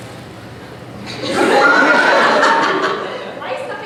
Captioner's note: audience laughter